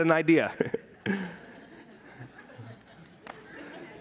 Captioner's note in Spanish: todos riendo